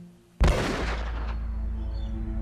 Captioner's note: loud gunfire; solemn music